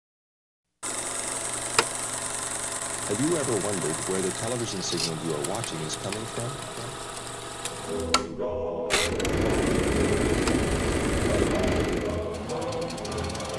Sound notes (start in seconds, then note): 0.9 projector clicking